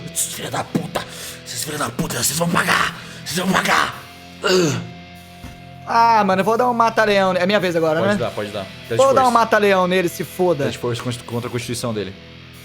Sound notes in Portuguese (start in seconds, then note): 4.4 gemido